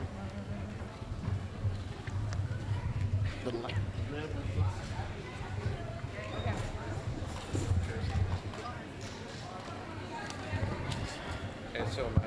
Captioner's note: general chatter